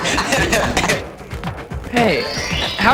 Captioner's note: laughter